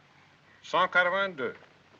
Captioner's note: speaks french